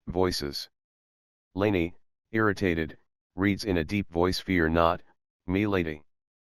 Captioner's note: irritated, reads in a deep voice